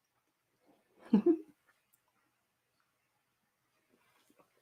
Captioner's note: giggles